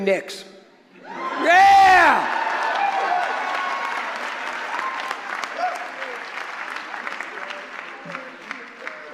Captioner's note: cheering